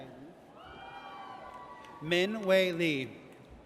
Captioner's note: audience cheers